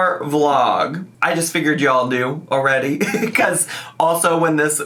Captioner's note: laughs